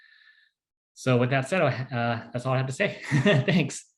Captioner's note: chuckles